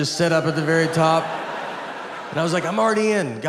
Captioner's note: audience laughs